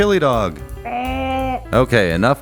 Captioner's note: burp!